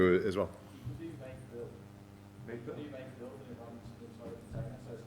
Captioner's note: man speaks softly